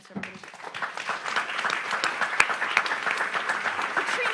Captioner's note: audience applauds